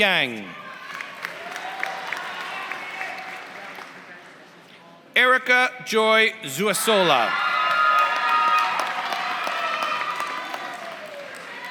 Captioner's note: applause; applause